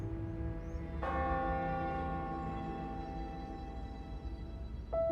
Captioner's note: church bell ringing; mystical piano music